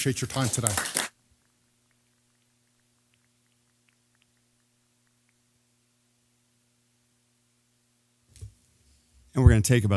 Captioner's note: applause